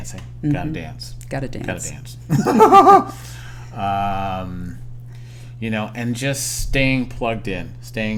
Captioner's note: laughter